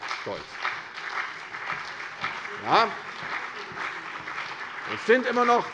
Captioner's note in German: Beifall CDU und BÜNDNIS 90/DIE GRÜNEN - Zuruf AfD